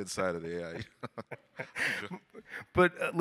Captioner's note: all laugh